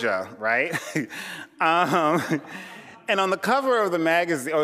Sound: chuckling

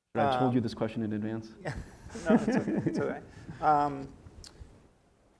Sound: laugh

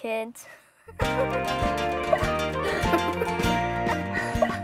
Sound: laughing

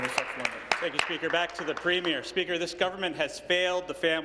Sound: applause

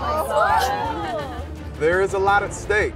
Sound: shrieking

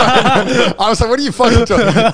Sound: all laugh

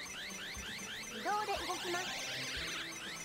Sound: none

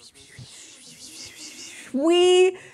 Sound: making swishing noises

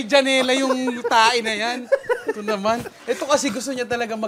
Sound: laughing

